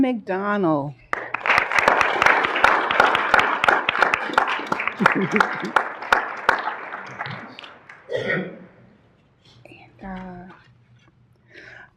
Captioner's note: applause